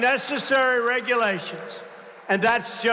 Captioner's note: applause